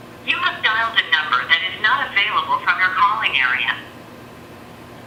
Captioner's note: phone